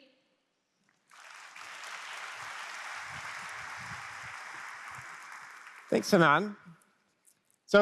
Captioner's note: applause